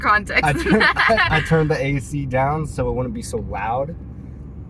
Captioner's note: laughter